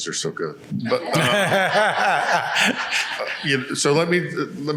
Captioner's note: laughing